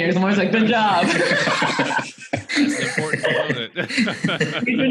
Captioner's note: laughs